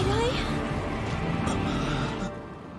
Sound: gasping

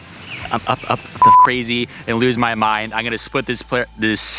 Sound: beep

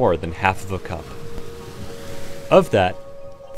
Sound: water rushing noises

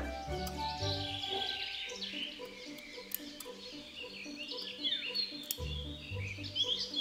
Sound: cutting sounds, bird song

